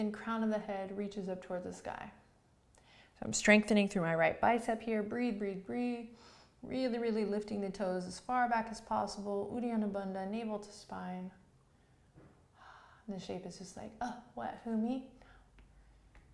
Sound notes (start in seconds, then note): 12.1 sighing breath